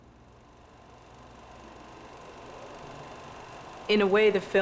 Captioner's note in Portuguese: projetor de cinema zumbido